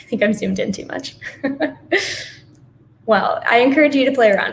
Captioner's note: laughs gently